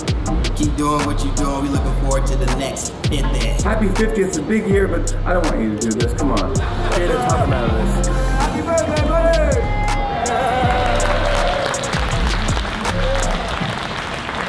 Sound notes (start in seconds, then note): 9.6 cheers, applause